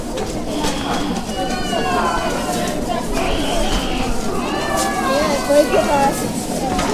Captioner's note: crowd mills about as fighting continues on street below